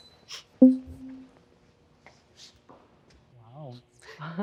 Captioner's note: banner dinging